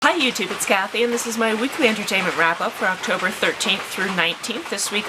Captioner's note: heavy rain sounds